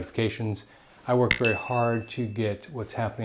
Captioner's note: notification bell dings